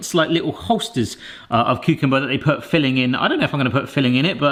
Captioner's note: none